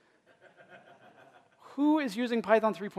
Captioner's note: laughter